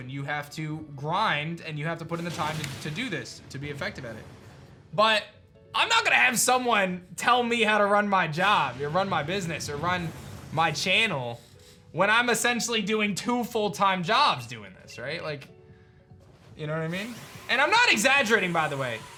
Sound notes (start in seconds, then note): none